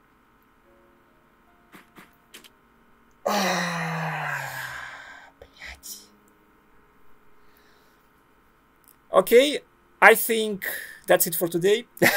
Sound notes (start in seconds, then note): 4.2 exhales deeply; 5.4 speaks Russian